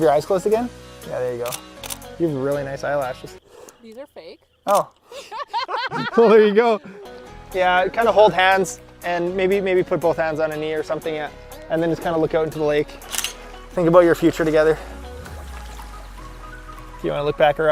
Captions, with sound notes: Have your eyes closed again? There you go. You've really nice eyelashes. - These are fake. - Oh, (everyone laughs) Well, there you go. Yeah, kind of hold hands, and maybe put both hands on her knee, or something, and then just kind of look out onto the lake. (click) Think about your future together.